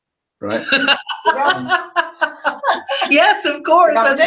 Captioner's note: laughter